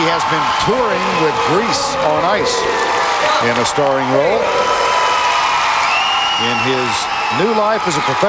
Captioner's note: crowd Cheering